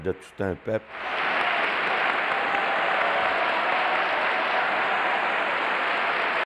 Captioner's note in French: applaudissements